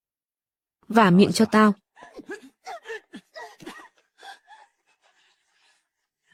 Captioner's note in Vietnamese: tiếng cười